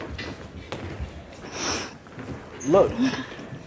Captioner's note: sniffling